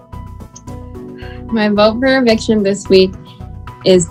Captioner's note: sighs